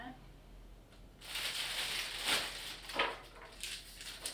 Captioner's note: crinkling